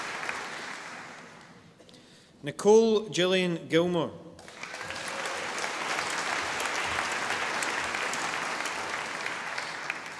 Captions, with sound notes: Nicole Gillian Gilmour. (audience applauding)